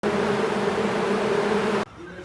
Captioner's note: ferocious bee buzzing